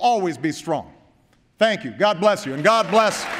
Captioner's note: applause